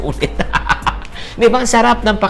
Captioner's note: laughs